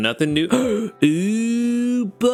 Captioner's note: gasps